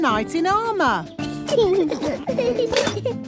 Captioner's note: children giggling